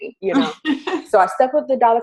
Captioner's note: laughs